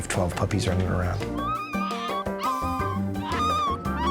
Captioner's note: puppies whining